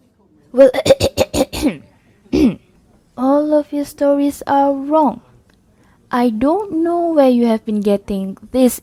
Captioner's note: clears throat